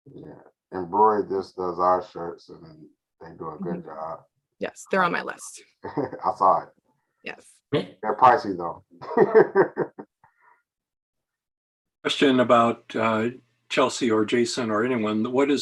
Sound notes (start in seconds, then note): 9.0 laughing